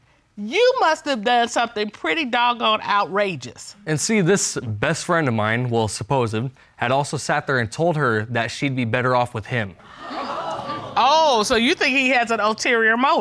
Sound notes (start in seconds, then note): 9.8 audience gasping